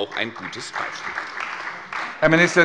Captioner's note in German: Beifall bei der CDU und dem BÜNDNIS 90/DIE GRÜNEN